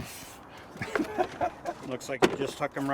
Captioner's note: laughing